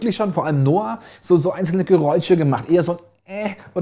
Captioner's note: ehm